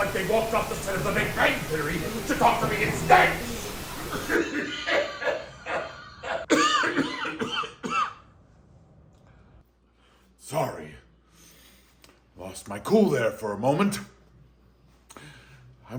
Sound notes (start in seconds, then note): 4.1 coughing intensifies